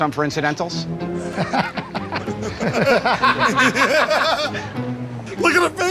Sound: laughter

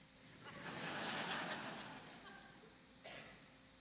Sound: audience laughs

